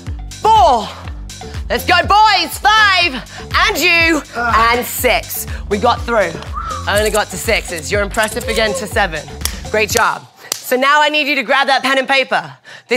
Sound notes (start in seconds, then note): 4.2 moaning; 6.5 whistling; 9.4 clapping